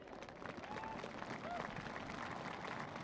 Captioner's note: applause